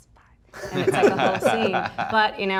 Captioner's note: laughs